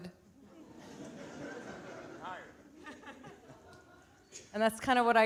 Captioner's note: audience laughing